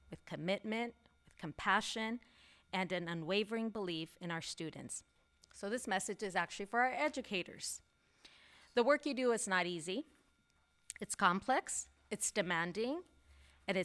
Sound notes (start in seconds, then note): none